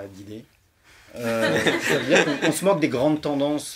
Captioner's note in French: rires